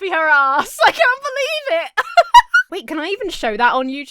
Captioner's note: Emma giggles